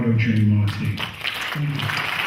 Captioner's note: clapping